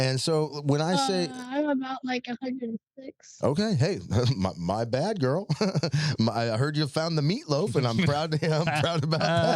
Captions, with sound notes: And so, when I say-- I'm about 106. Okay, hey, my bad girl. (laughs) I heard you found the meatloaf, and I'm proud to have, I'm proud to have.